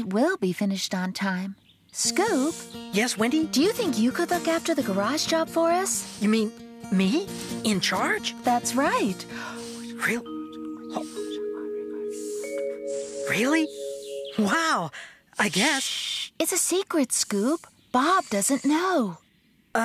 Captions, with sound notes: IT WILL BE FINISHED ON TIME. SCOOP? YES, WENDY? DO YOU THINK YOU COULD LOOK AFTER THE GARAGE JOB FOR US? YOU MEAN...ME? IN CHARGE? THAT'S RIGHT. ( Whispering ) REALLY? WOW! I GUESS... SSSHHH! IT'S A SECRET, SCOOP. BOB DOESN'T KNOW.